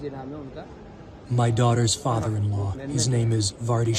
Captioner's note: through translator